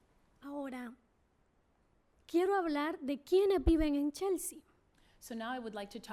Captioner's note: speaking spanish